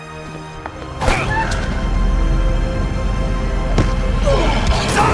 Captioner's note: Eric cries out